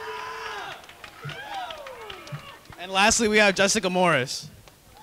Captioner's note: cheering and clapping